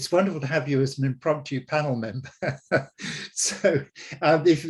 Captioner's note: laughing